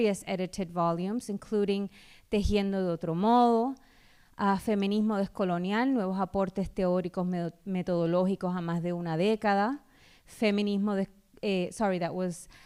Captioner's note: speaking spanish; speaking spanish